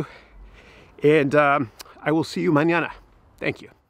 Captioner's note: speaking foreign language